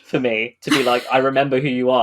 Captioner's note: laughs